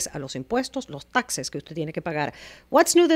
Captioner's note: Hablando ingl\s